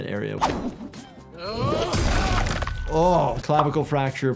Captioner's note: characters groan, weapon slashes